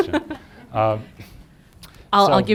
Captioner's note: laughter